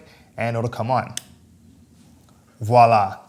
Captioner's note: mechanical clicking